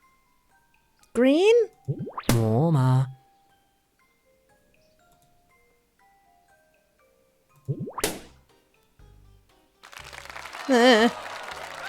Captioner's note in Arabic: تفرقع بالونًا بتردد